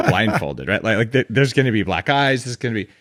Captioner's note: laughs